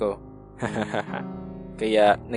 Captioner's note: chuckles